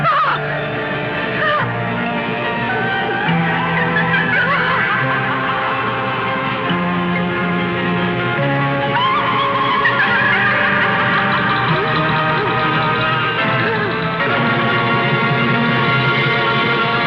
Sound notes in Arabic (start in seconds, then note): 1.0 موسيقى غريبة; 4.1 امرأة تثرثر; 11.7 موسيقى غريبة